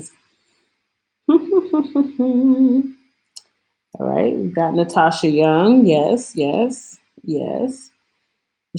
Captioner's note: hums